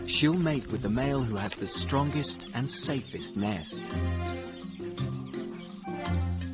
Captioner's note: birds chirping; playful music continues